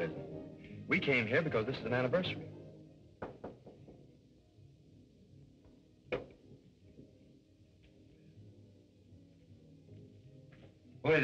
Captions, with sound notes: We came here because this is an anniversary. [door knocking] Who is it?